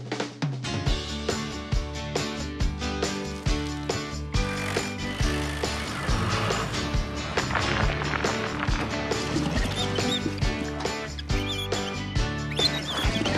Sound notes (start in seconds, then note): 0.7 upbeat Music; 7.7 scraping; 9.1 drum Squeaks; 9.5 concrete Sploshes